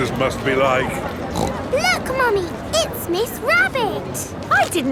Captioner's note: snorts